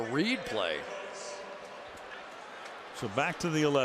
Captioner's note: pa announcement